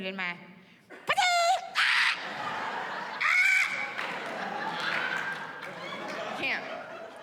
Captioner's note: screams